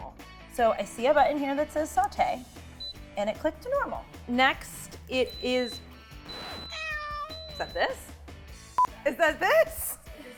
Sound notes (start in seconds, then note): 5.0 beeping from multi-cooker